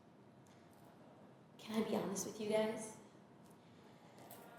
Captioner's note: whispers